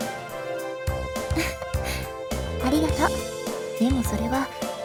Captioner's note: giggle